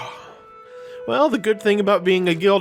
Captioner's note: sigh